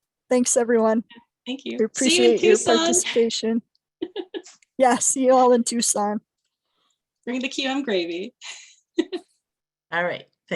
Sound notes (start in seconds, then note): 4.0 chuckling; 8.9 chuckling